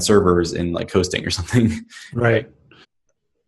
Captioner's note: laughs